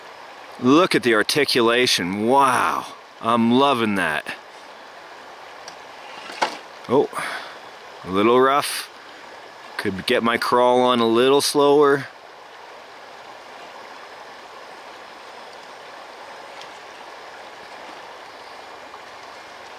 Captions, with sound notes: Look at the articulation, wow! I'm lovin' that. (splashing) Oh! Little rough. Could be gettin' my crawl on a little slower. (babbling brook and engine working)